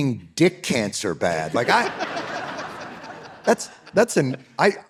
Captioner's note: audience laughing